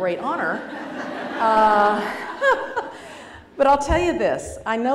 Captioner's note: laughter